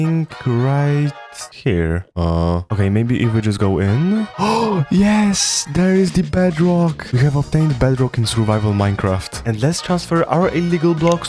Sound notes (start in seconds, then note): 4.1 gasp